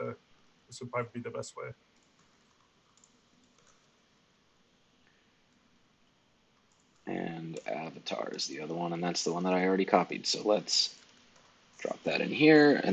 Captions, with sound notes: so this will probably be the best way. (keyboard keys clicking) - And avatar is the other one, and that's the one that I already copied, so let's drop that in here,